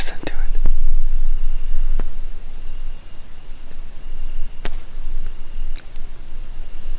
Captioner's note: crickets chirping; fire crackling